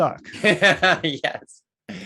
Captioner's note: laughs